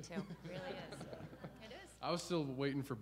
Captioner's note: audience laughs